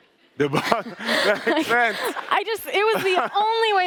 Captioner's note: Kuramo laughs